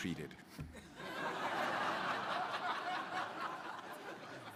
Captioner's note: crowd laughing